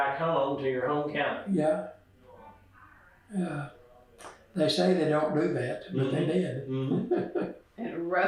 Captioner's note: laughs